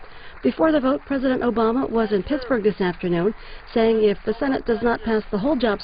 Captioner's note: applause